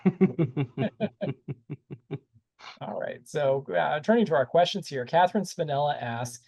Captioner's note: laughter